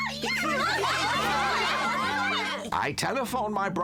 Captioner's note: students chattering